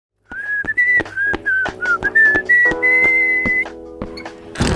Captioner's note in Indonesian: bersiul